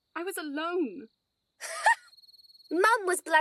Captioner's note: Petunia laughs cruelly